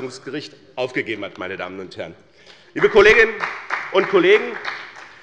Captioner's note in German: Beifall bei der CDU und dem BÜNDNIS 90/DIE GRÜNEN